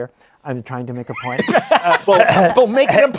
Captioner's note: laughter